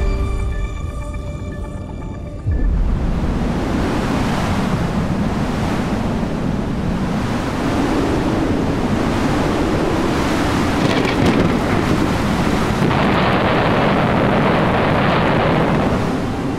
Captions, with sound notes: Institute of Nuclear Physics Polish Academy of Sciences [strong wind] [thunder]